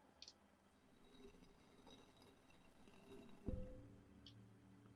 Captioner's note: stone scraping